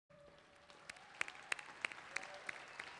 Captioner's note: clapping